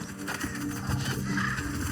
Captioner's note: wings flapping; ducks quacking; birds calling